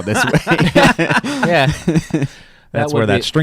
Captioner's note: laughing